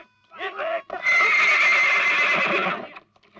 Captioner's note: horse neighing